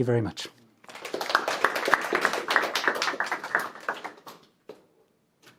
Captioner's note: audience applauds